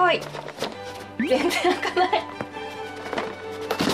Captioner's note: laughs